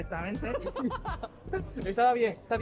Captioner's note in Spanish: Risas